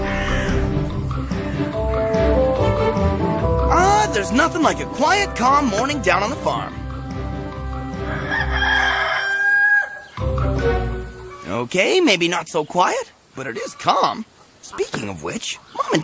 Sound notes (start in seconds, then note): 7.2 cow moos; 10.3 chickens clucking